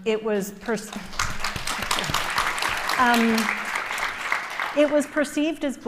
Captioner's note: applause